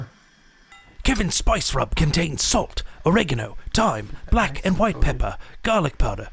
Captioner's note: voiceover